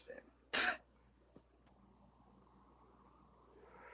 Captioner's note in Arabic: يبصق